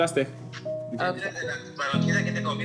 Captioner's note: speaking Spanish